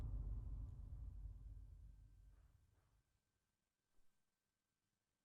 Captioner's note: ominous music; banging